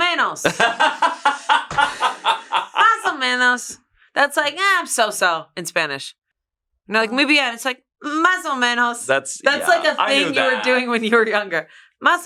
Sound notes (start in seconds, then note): 0.2 speaks in foreign language; 0.4 laughs; 2.8 speaks in foreign language; 8.6 speaks in foreign language